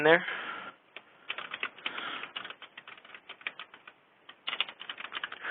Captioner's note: typing